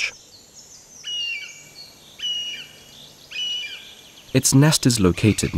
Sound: sounds of nature

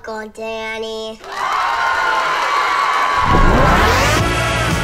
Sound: crowd cheering; upbeat music

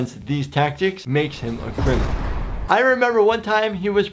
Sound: prison bars rumbling

